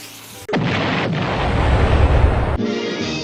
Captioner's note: Looney Tunes Explosion